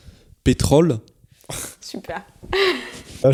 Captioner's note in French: rires